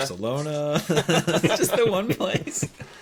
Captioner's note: laughing